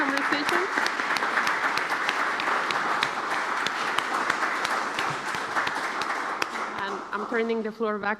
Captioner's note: applause